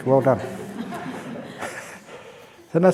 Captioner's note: laughs